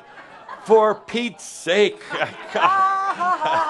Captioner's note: laughter